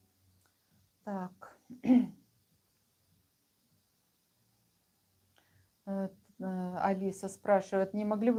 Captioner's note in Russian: откашливается